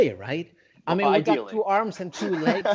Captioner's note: laughs